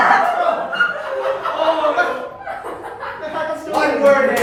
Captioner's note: chuckle; everyone laughs